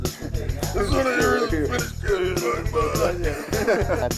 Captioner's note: Marine grunts and laughs